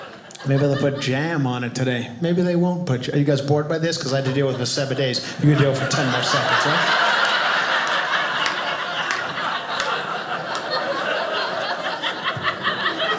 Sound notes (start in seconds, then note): 6.7 audience laughing